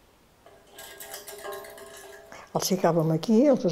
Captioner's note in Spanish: ruido metálico